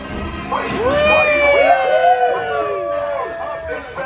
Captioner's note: riders cheering